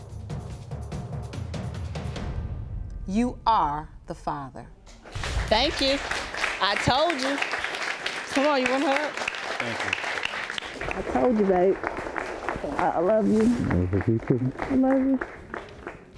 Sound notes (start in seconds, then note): 5.0 audience applauds